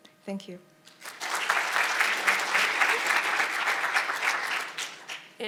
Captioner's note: audience applauding